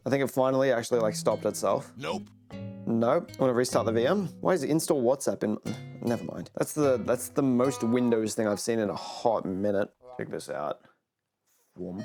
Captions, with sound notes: I think it finally actually like stopped itself. [nope sound effect] Nope. I'm going to restart the VM. Why is Install WhatsApp in my- Nevermind. That's the most Windows thing I've seen in a hot minute. Check this out.